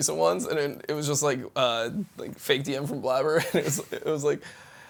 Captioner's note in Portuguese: risos